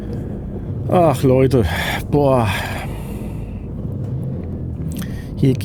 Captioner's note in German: seufzt